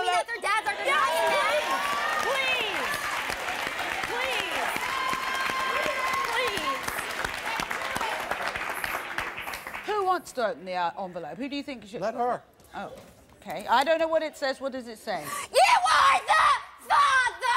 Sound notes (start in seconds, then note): 2.4 crowd cheering